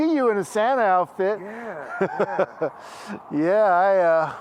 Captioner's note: Henry laughs